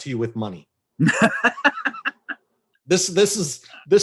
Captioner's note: laughs